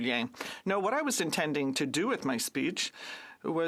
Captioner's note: speaking French